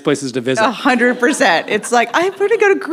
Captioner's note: audience laughs